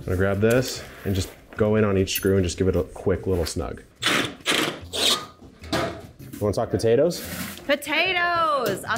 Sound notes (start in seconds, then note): 4.0 drill buzzing